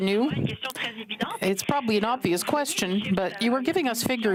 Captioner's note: speaking French